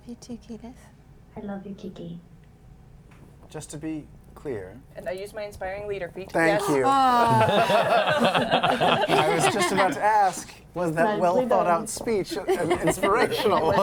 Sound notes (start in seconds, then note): 7.1 laughter